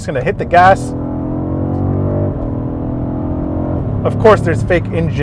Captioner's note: car engine revving